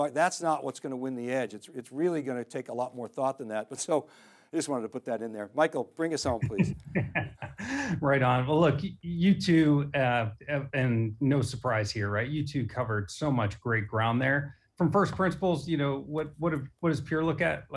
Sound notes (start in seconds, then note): 6.2 laughing